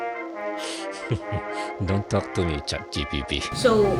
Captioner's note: laughs